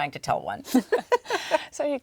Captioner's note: laughter